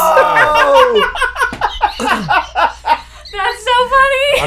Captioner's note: laughing; laughs